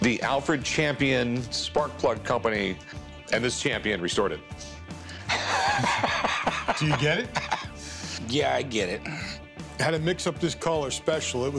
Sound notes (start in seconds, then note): 5.3 laughter